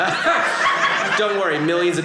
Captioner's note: audience laughing